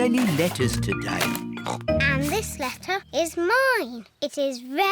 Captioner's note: snorts